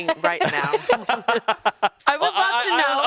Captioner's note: everyone laughs